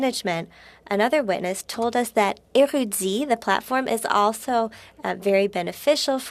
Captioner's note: speaking French